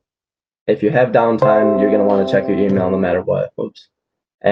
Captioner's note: email chimes